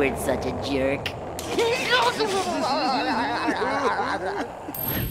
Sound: laughing

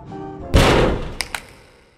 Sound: clang

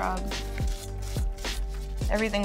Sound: brush scrubbing

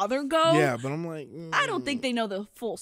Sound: groans quietly

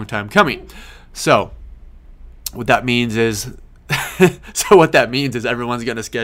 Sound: laughs

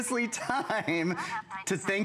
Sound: laughter

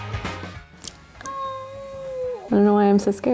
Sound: cries out

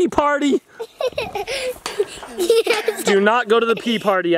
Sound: laughter

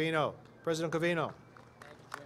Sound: applause

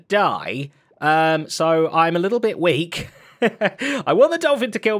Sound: chuckles

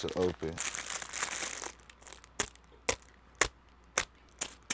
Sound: plastic crinkles

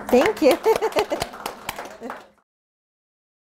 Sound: audience applauding

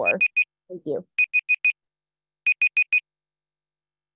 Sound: timer beeping

